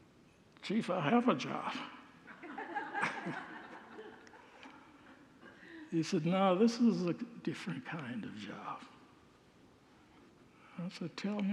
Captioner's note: congregants laugh